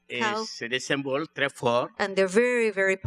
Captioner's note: speaking french